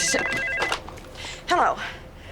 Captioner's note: telephone rings